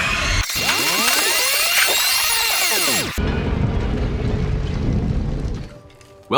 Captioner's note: fast-forward sound effect